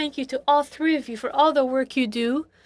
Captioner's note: speaking French